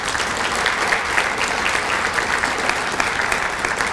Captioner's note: applause